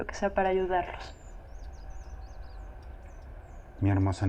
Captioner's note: birds chirping